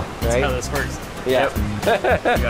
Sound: laughing

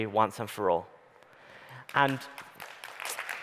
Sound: audience applauding

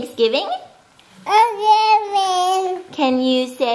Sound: baby chatter

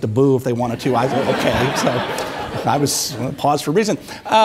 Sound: audience applauding

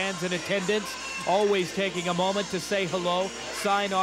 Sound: crowd yelling

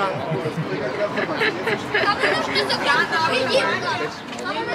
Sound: hahahahahaha

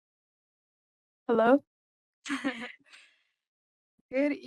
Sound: laugh

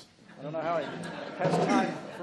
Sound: laughs

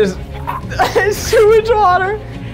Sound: girl gags

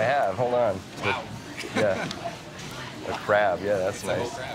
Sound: chuckles

